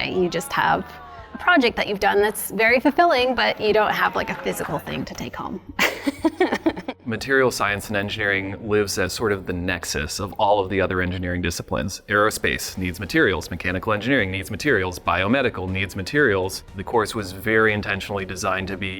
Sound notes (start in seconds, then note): 5.7 laughs